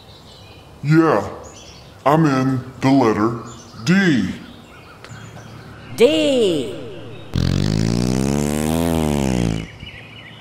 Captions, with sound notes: Trouble> yeah, I'm in the letter D Narrator> D [ engine sound ]